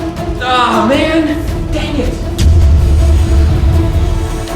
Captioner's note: grunts